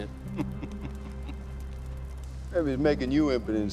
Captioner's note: chuckles